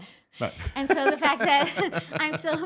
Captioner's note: laughing